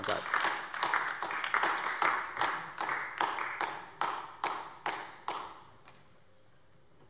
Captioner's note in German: Beifall AfD